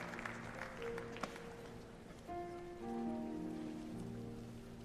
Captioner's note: applause